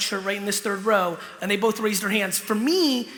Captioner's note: none